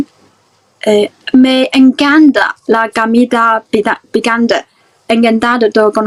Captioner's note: spanish